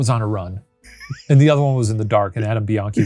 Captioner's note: laughing